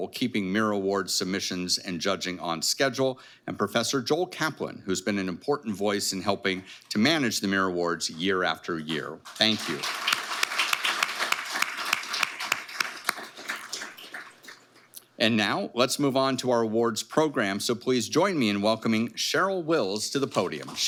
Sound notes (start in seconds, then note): 9.2 audience applauding